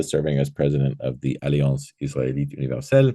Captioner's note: speaking foreign language